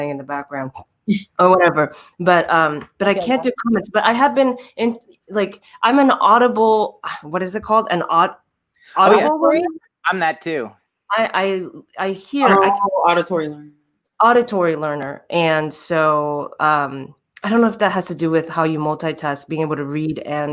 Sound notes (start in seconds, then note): 9.0 murmurs; 12.4 murmurs